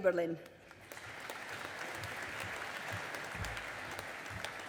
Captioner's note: audience applauding